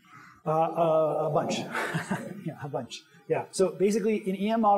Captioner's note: laughs